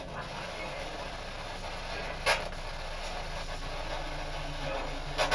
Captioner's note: radio static